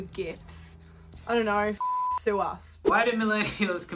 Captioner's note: beep